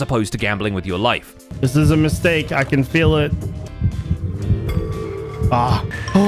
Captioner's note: dungeon noises